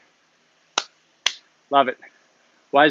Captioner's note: claps